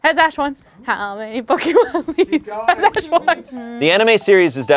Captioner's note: laughing